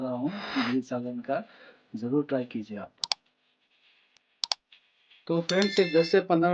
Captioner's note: sudden sound of heavy breathing